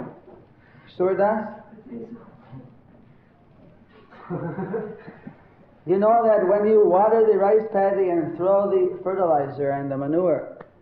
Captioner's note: laughter